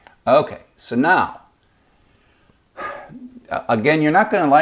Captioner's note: sighs